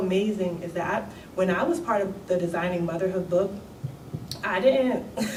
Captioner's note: laughs